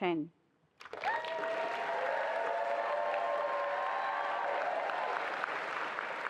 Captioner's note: attendees applauding and cheering